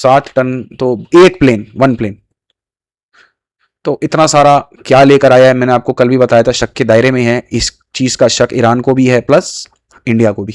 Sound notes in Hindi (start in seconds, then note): none